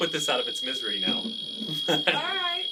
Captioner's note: laughter